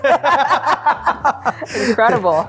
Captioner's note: laugh